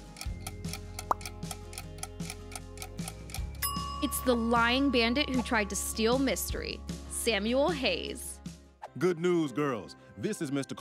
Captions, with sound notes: [pop] [timer rings] It's the lying bandit who tried to steal Mystery, Samuel Hayes. Good news, girls. This is Mr. Carlisle.